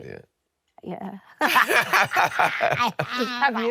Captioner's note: laughing